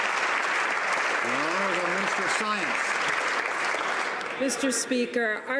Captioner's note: some Applause